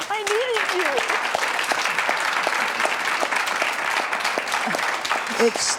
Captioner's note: audience clapping